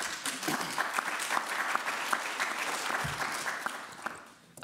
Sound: applause

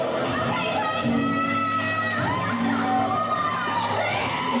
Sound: audience member shouting; audience whooping and cheering

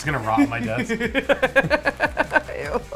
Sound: laughs

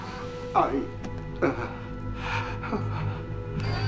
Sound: whimpers

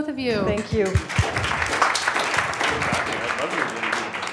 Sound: applause

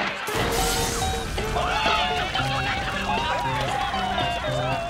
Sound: screaming

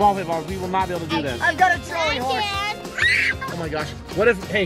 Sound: screaming

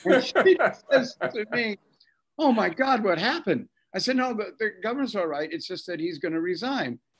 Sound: both laughing

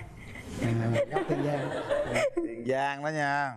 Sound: laughing

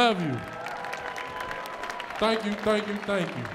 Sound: audience cheering

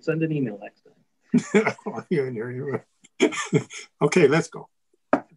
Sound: giggling

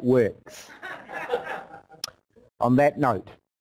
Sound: laughter

